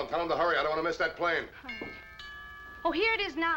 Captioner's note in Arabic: جرس الباب